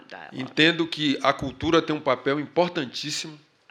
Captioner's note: speaking portuguese